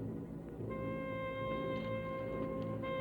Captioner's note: none